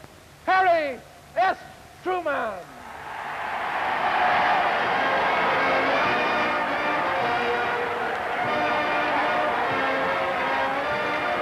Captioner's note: cheering and applause